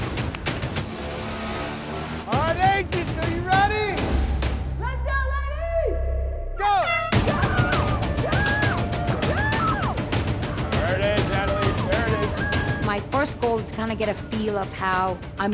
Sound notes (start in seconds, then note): 6.6 horn blows; 7.2 woman cheering; 8.2 dramatic music